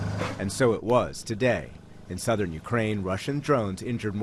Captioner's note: voice-over